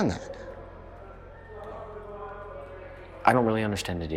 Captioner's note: students chattering